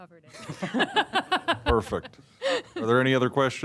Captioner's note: laugh